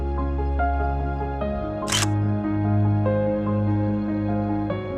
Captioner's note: camera click